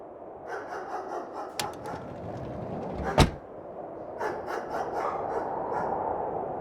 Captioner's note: dog barking